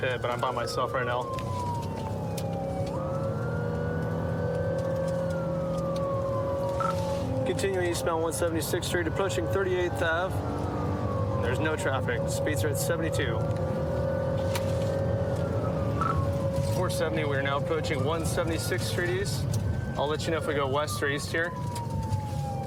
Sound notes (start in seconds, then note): 1.4 siren blaring